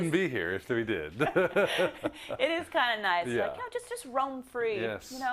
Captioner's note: laugh